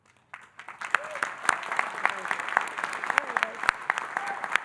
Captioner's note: audience applauding